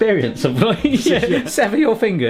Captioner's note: laughing